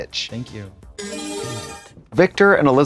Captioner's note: bright chime